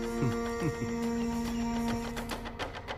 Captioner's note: Chuckles